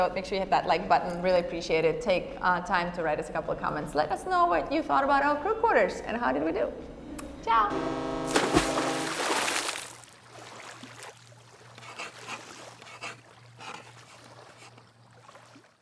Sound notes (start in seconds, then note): 7.6 boat horn honking; 8.2 water splashing; 11.8 pen scratching